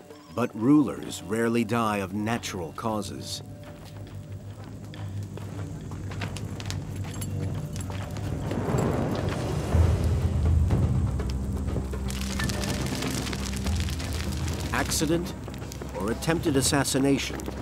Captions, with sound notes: But rulers rarely die of natural causes. (tense music) (fire whooshing) (suspenseful music) (fire crackling) Accident or attempted assassination,